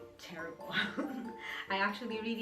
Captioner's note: laughing